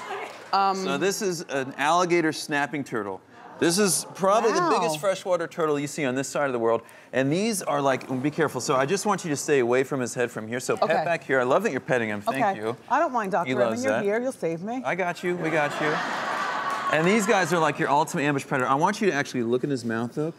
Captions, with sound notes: So this an alligator snapping turtle. This is probably the biggest freshwater turtle you see on this side of the world. And these are like, oh be careful, so I just want you stay away from his head from here. So right back here. - OK. - I love that you're petting him, thank you. - I don't mind doctor, I mean you're here, you'll save me. - I got you, we got you. (audience laughing) And these guys are like your ultimate ambush predator. I want you to actually look in his mouth though,